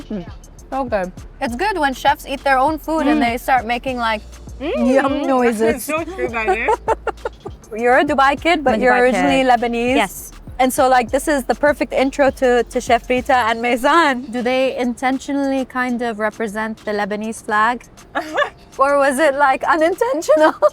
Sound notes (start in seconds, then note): 4.6 murmurs; 4.6 laughs; 18.1 laughs